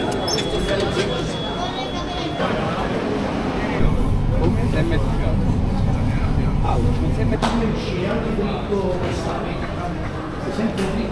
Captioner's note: people Chattering